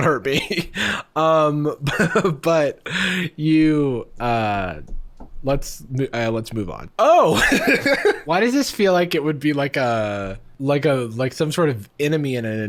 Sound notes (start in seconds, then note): 7.3 laughing